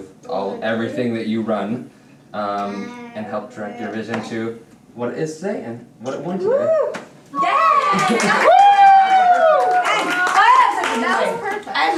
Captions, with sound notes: with everything that you run and help direct your vision to what we're saying, what we want to. (cheering)